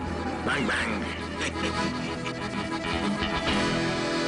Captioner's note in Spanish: Ríe